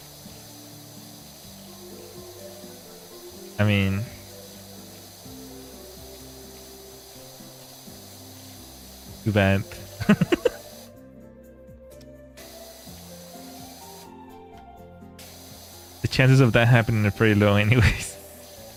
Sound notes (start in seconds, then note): 12.8 snorts